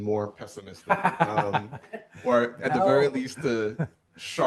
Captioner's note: laughs